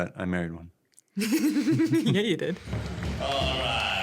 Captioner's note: laughter